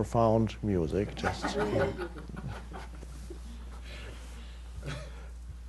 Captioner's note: audience laughs